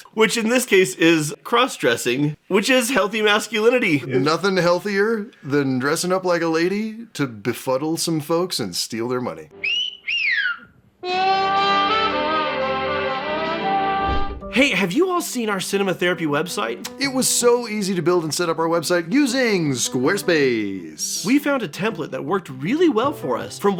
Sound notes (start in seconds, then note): 9.6 whistles